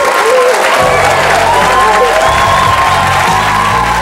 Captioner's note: audience cheering